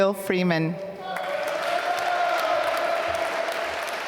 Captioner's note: applause